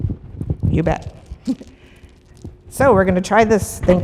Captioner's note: laughs